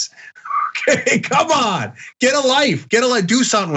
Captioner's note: laugh